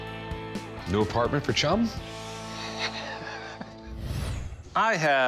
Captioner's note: laughs